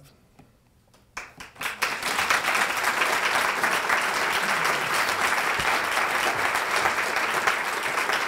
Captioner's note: applause